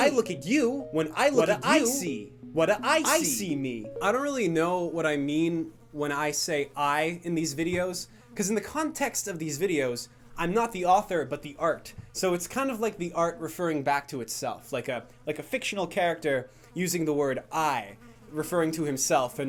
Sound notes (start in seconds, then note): 3.7 faint buzzing noises increasing in volume